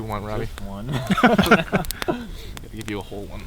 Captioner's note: all laugh